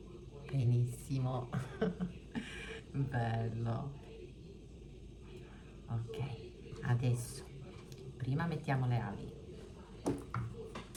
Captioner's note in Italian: risate